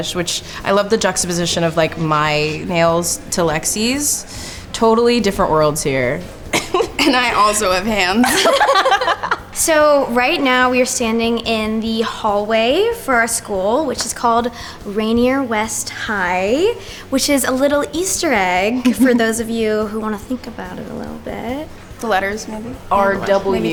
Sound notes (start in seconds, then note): 6.5 laughing; 8.2 group laughing